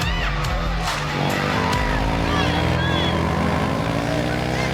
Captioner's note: engines rumbling